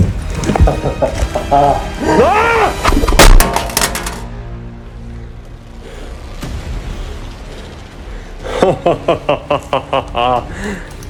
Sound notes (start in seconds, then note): 0.4 laughs; 2.0 screams; 2.9 knife drops; 3.0 armor plate thuds; 8.5 laughs